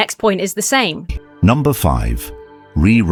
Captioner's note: AI Voice